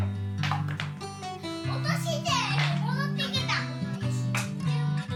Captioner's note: children's voice